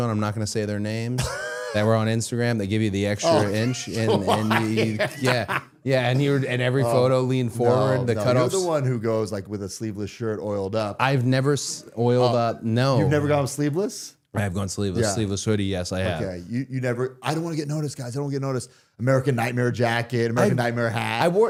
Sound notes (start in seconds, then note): 1.2 Matt laughing